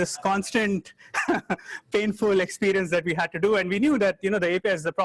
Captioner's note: chuckles